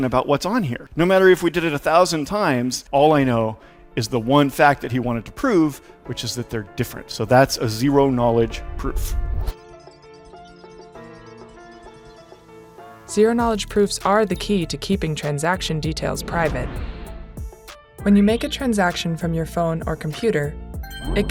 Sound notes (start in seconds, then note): 9.0 transition whooshes; 9.6 suspenseful music